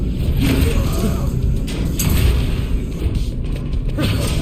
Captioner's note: sword whooshing